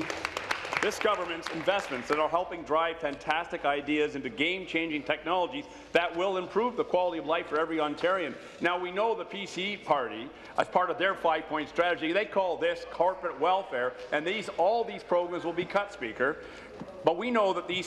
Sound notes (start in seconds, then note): 3.4 applause